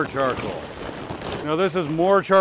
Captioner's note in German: Holzkohle raschelt